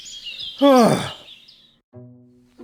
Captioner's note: sighs